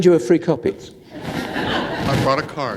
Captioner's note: laughter